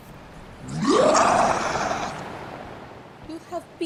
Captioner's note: roar